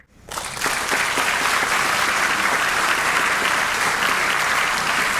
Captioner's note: audience applauding